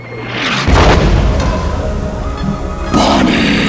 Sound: explosion booming

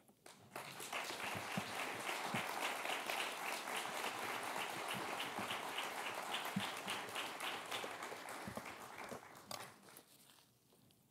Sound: applause

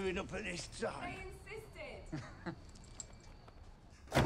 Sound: chuckles

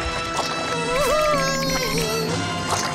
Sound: whimpering

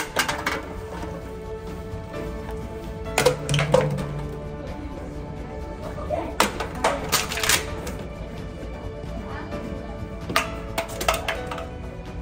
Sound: A lot more bottles fall on the ground

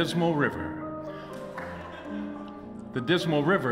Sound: audience Laughter

